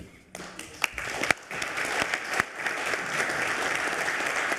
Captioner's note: audience applauds